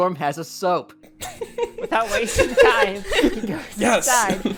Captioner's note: everyone laughs